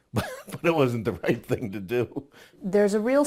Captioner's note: laugh